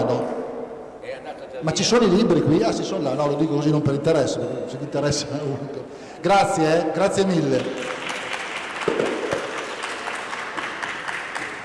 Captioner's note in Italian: Applauso